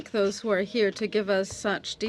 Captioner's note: speaking French